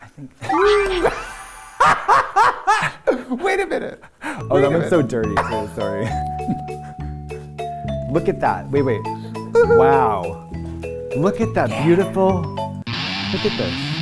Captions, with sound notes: Whoo! [laughs] Wait a minute. -Oh, that looks so dirty, too. Sorry. -[circus music playing] -Look at that. Wait, wait. Wow. -Whoo-hoo! Look at that beautiful... Look at this.